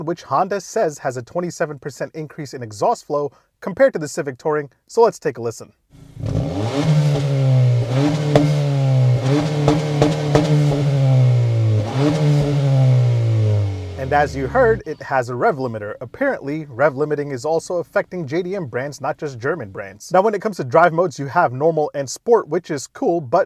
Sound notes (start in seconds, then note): 6.0 engine revving; 6.1 exhaust popping